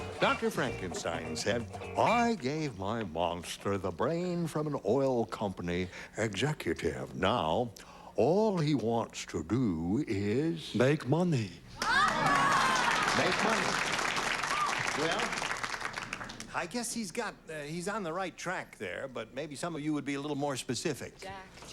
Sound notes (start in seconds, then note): 11.8 cheers and applause